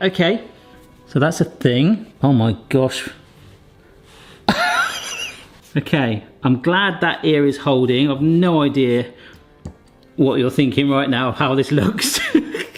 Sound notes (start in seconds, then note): 4.5 laughing